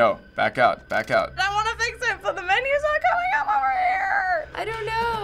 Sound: shrilly

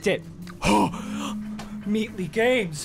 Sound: G a S p

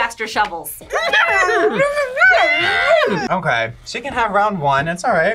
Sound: both exclaim angrily

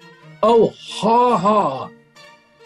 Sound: sarcastically

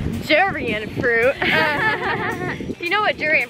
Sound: laughing

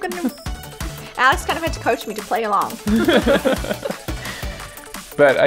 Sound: laughs

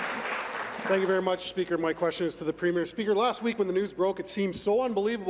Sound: some Applause

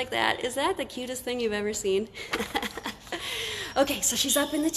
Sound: laughs

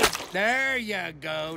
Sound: splooshes

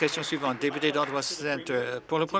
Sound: applause

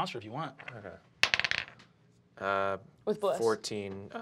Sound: die clacks

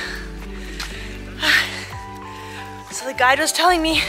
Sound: gasping

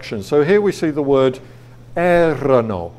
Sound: speaking foreign language

